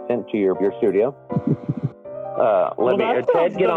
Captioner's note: giggles